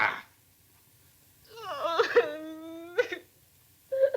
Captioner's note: sobbing